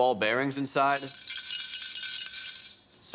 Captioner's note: rattling